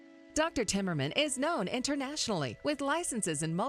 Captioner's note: voiceover